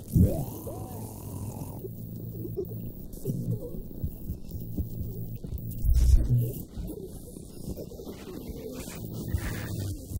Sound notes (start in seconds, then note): 0.0 creature growls; 2.5 Jason groans; 5.0 electronic crackling